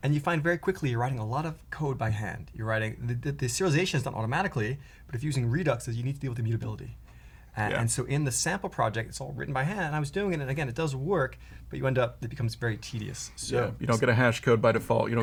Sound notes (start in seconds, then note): none